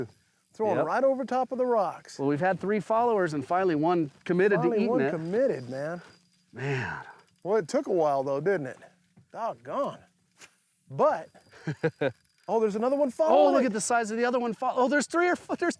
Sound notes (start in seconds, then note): 11.5 laughs